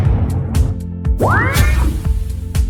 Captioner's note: explosion; mystical sound